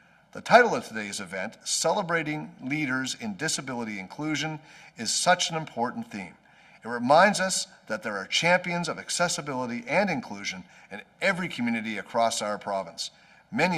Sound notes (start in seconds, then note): none